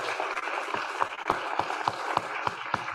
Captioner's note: applause